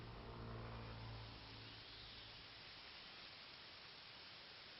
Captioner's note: leaves rustling